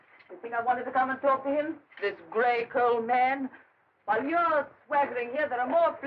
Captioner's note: none